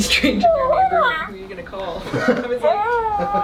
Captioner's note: chuckles; toy coos